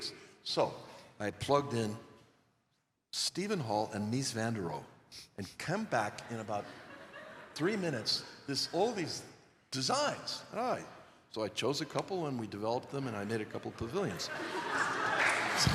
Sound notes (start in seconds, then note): 6.0 laughter; 13.1 laughter